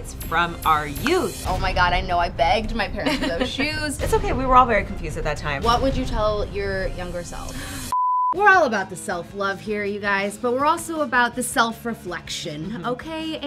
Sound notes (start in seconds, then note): 3.5 laughing; 7.9 beeping